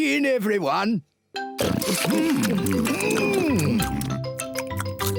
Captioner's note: all chomping